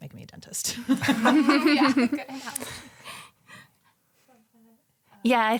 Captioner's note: all laugh